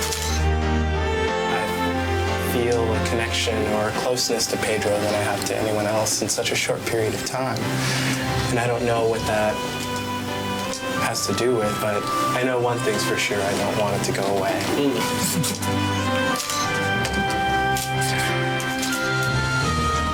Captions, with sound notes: (camera clicks) - I feel a connection or a closeness to Pedro than I have to anyone else In such a stored period of time, and I don't know what that has to do with, but I know one thing's for sure. I don't want it to go away. (camera clicks)